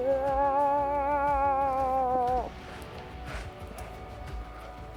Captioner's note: moose calling; upbeat music